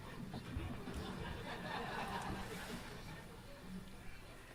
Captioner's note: crowd laughing